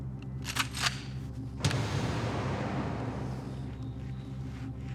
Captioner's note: gun pump clacking